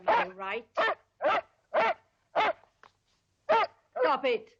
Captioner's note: dogs barking